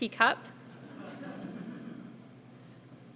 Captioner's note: laugh